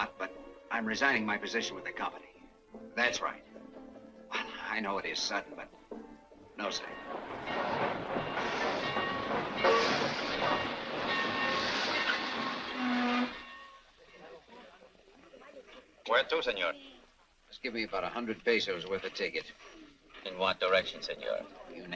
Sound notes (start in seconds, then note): 8.1 bell dings; 8.4 train clacks